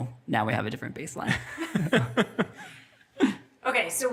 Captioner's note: all laughing